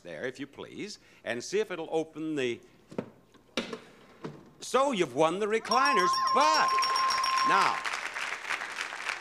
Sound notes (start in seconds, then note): 5.6 bell ringing; 5.6 audience applauding